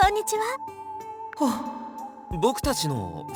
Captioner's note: whew!